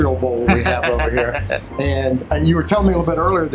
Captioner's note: laughs